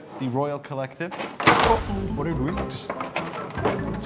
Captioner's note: item clatters